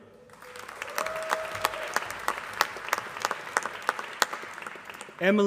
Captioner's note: applause